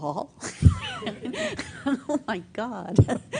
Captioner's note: laughs